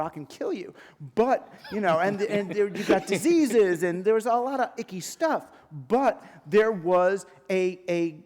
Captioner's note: laughter